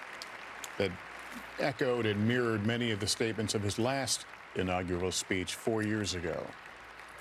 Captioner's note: applause